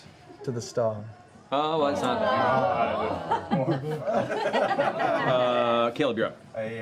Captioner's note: laughter